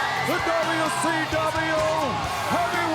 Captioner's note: crowd cheering